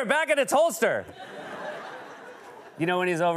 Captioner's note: laughter